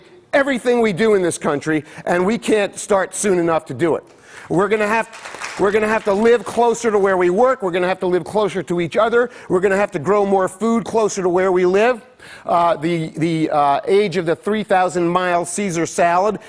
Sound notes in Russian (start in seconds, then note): 5.0 Аплодисменты